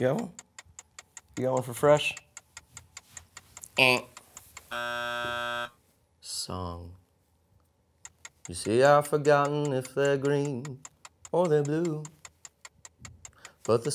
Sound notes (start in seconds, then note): 4.7 buzzing